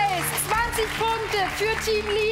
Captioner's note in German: Applaus